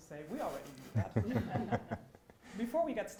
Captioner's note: audience laughs